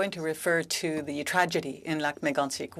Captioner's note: speaking French